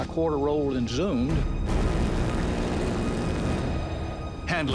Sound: gunfire

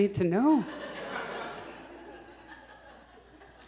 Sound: audience chuckles

